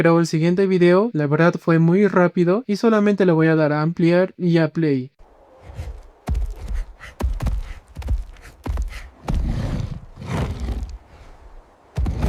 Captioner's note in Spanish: jadeo